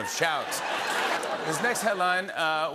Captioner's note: laughter and applause